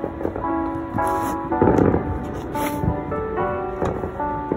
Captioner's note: fireworks